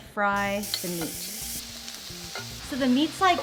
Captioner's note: pan sizzling